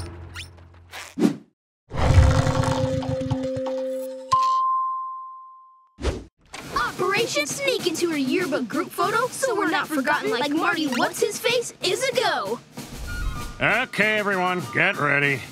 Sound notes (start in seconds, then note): 3.9 dinging